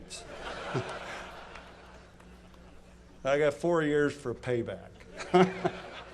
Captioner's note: laughter